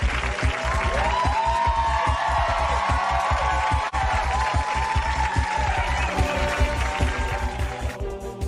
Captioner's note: cheers, applause